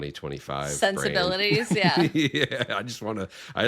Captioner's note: laughing